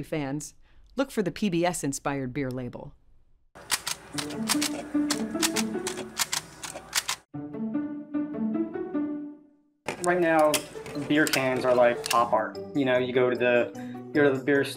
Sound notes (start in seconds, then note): 6.5 label gun clacks; 9.9 upbeat music